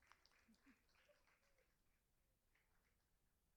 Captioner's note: applauding